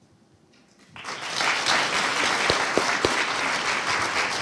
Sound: audience applauding

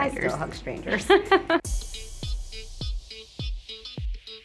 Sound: laughs

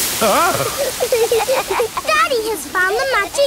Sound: laughing

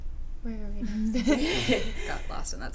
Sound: laughter

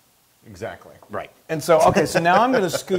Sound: laugh

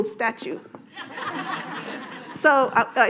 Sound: audience laughing

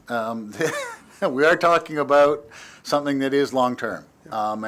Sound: chuckle

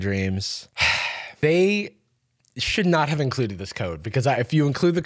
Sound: sighs

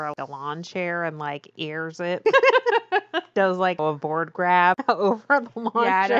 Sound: laughs

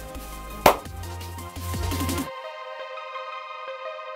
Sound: claps

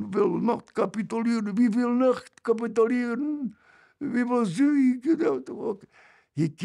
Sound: in German; in German

